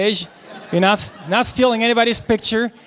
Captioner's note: audience laughing